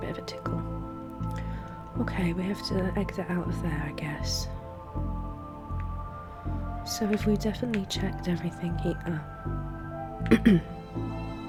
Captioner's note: clears throat